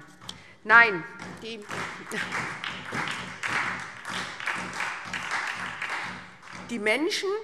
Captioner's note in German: Beifall